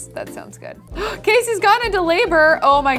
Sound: girl gasps

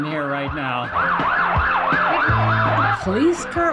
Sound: police sirens blaring

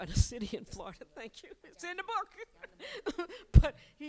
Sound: laughs

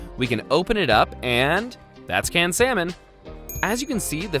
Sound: bell dings

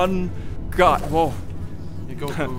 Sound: non-stop buzzing

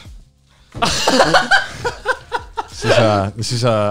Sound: laugh

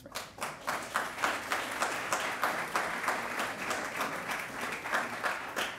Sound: audience applauding

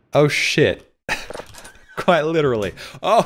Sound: laughs

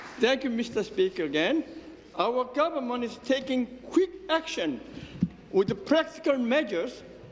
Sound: applause

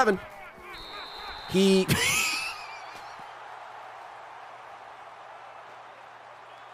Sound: laughs

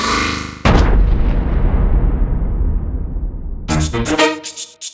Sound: boom!

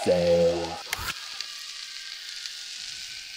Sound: click

